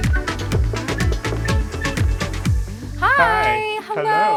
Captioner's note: rapping on door